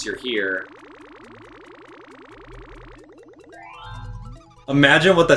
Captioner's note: game sounds